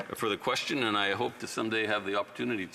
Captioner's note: speaking French